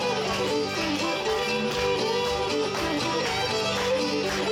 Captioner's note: audience clapping